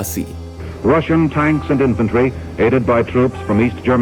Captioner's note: Reporter: Russian tanks and infantry aided by troops